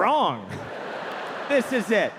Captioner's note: audience laughing